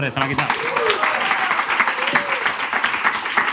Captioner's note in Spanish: Aplausos